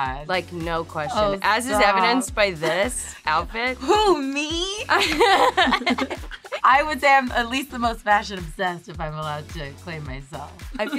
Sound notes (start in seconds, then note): 5.0 laughing